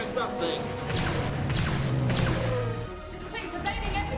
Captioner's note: lasers blasting